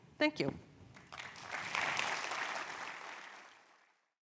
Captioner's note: applause